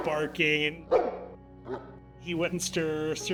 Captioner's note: dog Barks